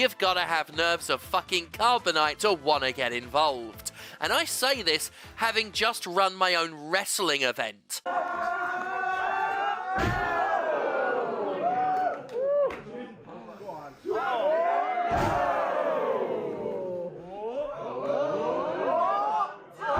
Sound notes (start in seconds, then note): 8.0 crowd cheers